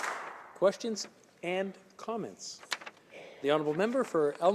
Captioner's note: some applause